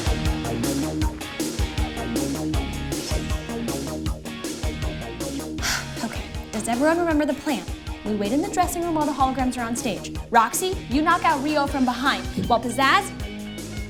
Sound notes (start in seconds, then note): 5.5 exhales